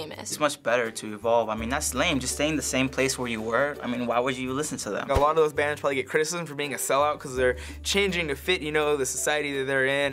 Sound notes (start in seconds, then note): none